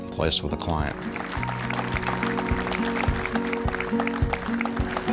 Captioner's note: applause